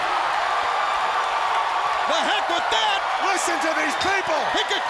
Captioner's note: crowd cheering